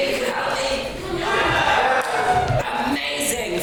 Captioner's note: audience shouts in agreement